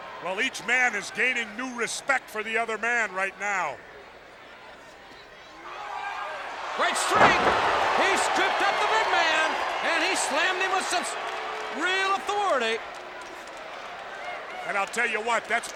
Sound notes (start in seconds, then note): 6.9 Vader thuds; 7.2 audience cheers